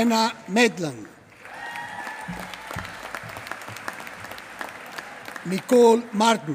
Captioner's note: applause